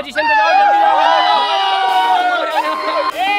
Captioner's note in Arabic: صراخ